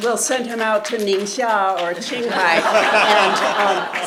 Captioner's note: foreign language; audience laughing loudly